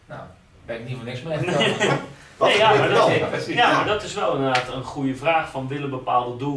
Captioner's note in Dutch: lacht